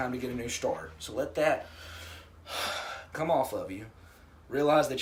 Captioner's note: deep breath